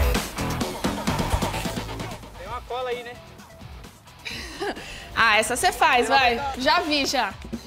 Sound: laughs

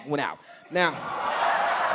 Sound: laughter

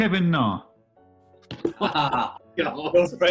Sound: laughter

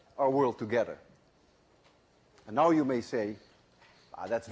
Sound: none

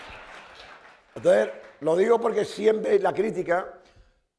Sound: applause; speaking spanish

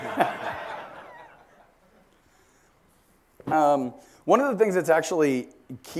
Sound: laugh

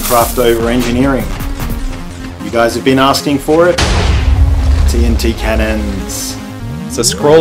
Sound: boom

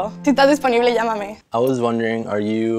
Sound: speaks Spanish

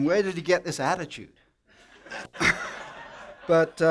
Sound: laughter

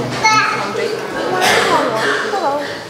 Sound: echoes

